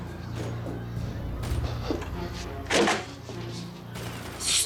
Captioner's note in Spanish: se oyen los disparos